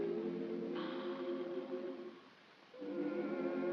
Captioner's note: puff sound; choir humming